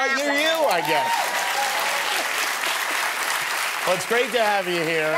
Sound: applause and cheering

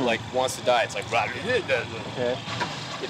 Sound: impression of engine noise

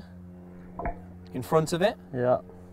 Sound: golf Ball Being Hit

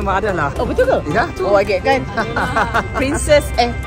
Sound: laugh

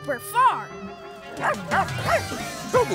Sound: barking

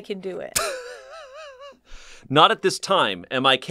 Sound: laughs

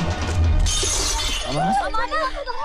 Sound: vase shatters

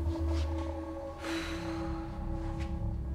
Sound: sighs

